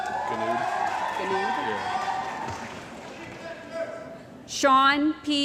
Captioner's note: cheering & Applause